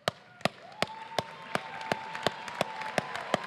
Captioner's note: applause